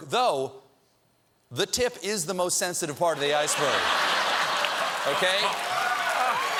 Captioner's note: laughter